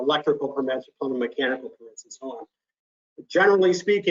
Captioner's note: speech fades out